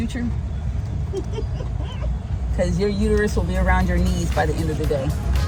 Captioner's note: woman laughing